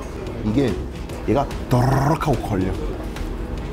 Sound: bumpy sound

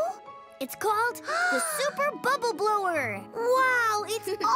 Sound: Pinkfong gasps

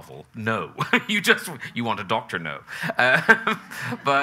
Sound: chuckles

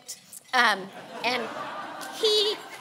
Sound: laughing

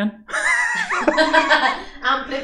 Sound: laughing

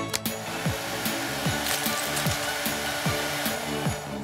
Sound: dryer howling

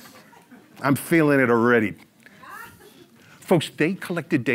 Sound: audience laughs

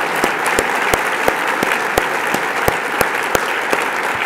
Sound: applause

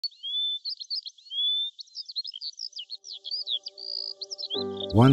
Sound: birds chirping

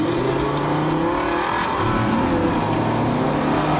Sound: vehicles accelerate away

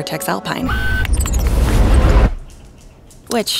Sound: electronic whirring

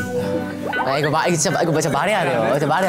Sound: laughing

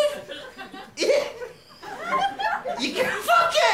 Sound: yelps

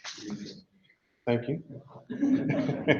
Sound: laughs

